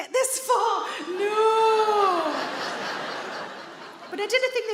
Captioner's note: audience laughing